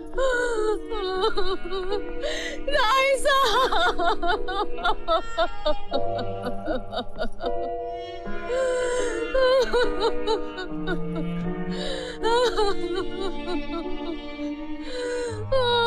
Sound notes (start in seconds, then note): 2.7 wailing